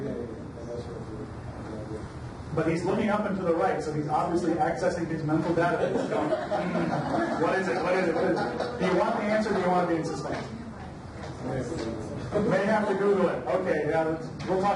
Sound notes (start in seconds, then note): 0.2 mumbles; 5.7 audience laughs; 11.4 overlapping chatter